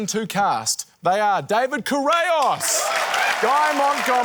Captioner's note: cheering, applause